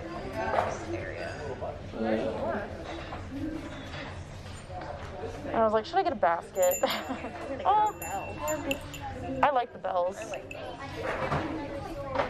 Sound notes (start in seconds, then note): 6.5 bell rings; 6.8 laughs